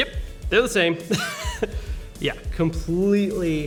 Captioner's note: laughing